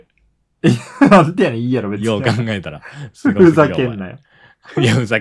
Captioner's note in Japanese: 笑い